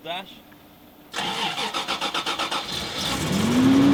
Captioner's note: engine starts